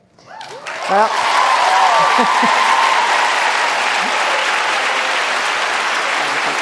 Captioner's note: audience applauding